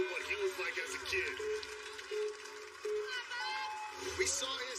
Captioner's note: countdown clock beeping